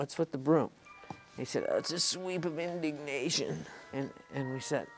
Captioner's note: imitating crispin